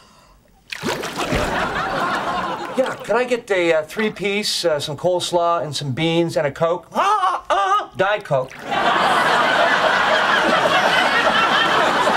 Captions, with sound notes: (water burbling) (audience laughing) - Yeah, could I get the a three piece, some coleslaw, and some beans and a Coke? Ah ah! Diet Coke. (audience laughing)